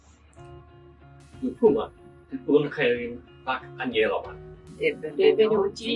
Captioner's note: speaking in foreign languages